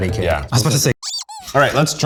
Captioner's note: squeak